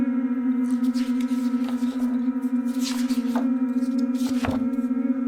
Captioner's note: pages rustling